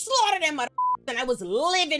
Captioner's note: beep